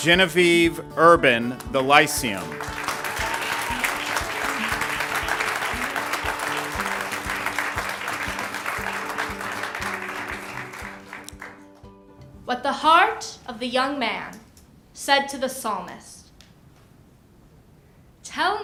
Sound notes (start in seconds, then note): 1.8 ^applause^